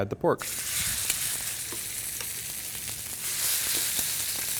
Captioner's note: sizzling sound